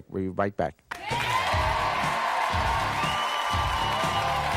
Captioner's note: audience cheering